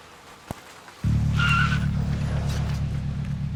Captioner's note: tires screech